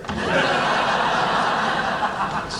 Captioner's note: laughing